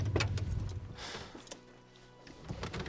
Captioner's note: sighs